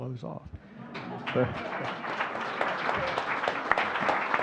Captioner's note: audience clapping